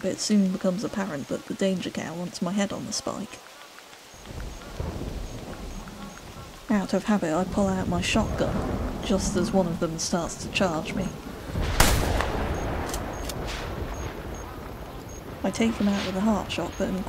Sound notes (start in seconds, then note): 5.6 buffalo grunts; 11.6 shotgun blast